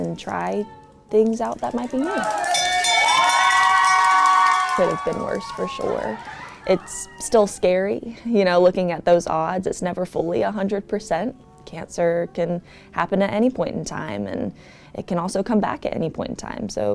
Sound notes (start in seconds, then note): 2.0 team cheering; 2.4 bell ringing